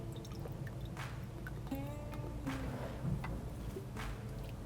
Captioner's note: soft country music; sauce trickling